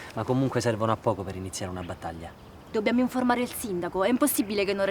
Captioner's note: none